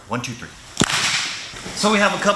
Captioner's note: all clap